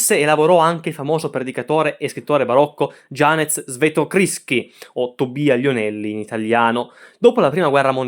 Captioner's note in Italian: in italiano